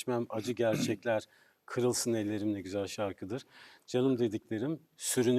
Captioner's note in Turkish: boğazını temizler